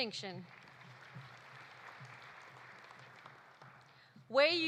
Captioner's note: audience applauding